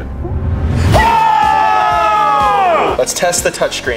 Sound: cheering excitedly

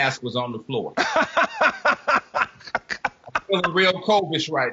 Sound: laughing

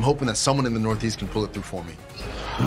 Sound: groans

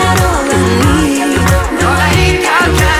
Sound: echo

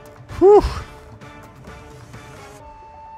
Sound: heavy breathing

